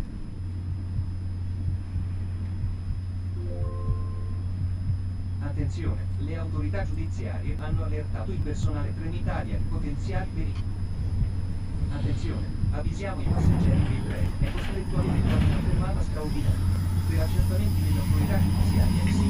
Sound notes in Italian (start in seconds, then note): 13.2 rumore delle rotaie sempre più forte; 16.1 sospiri, rumore di rotaie; 18.6 sospiri, rotaie